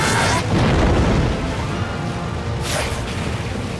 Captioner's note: screaming